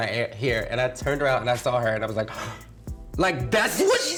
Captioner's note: gasps